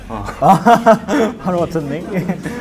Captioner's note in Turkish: Gülüyor